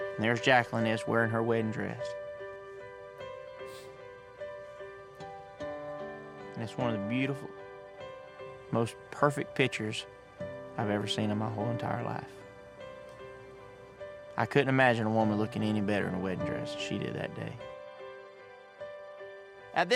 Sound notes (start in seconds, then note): 3.6 sniffles; 6.6 tearful voice